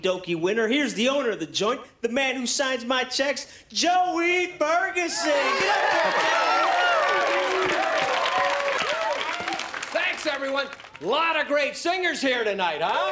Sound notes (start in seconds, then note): 5.1 cheering